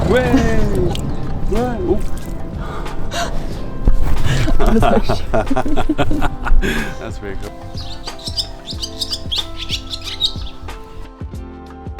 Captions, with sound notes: Wheyy! [laughter] That's really cool [pretty bird song]